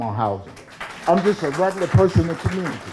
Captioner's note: crowd clapping